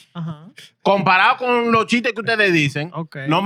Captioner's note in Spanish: Hablando en idioma extranjero